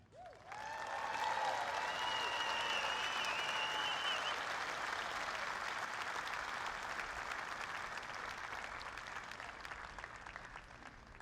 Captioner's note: applause